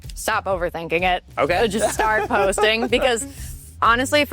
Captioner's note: laughs